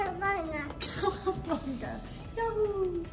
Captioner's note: laughs